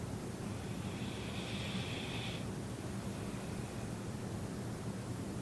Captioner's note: breathing noisily